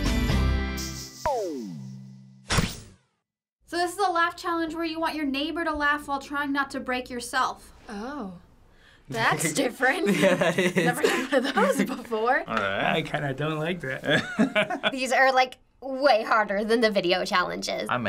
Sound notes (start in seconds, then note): 10.0 laughs; 14.0 chuckles